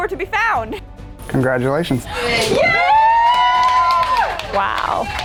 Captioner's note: cheering